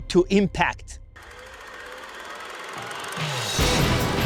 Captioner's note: camera whirring; upbeat energetic music